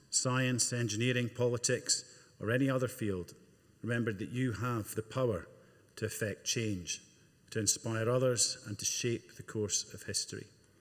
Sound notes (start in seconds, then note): none